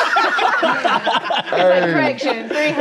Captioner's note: all laughing